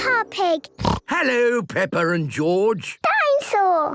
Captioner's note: snorts